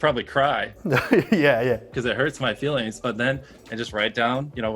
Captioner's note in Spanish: Risas